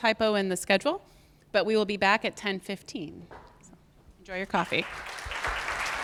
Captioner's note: audience clapping